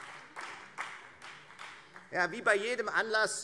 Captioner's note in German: Beifall Freie Demokraten - Zurufe CDU